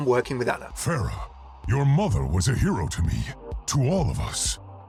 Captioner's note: voiceover